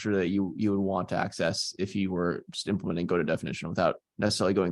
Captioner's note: none